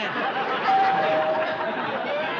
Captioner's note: doorbell rings